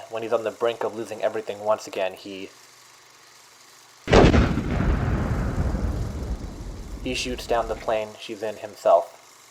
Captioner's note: bazooka shot